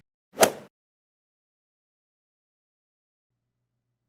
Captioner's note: golf swing sound effect